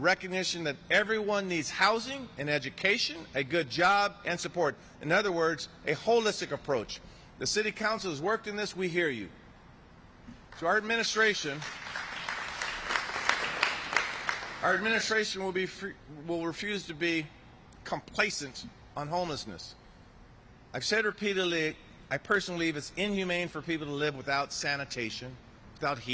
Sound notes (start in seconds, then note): 18.4 applause